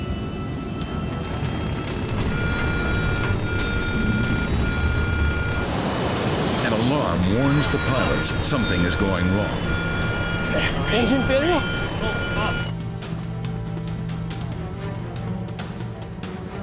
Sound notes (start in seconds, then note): 1.0 intense music; 1.9 alarm beeping; 12.4 intense music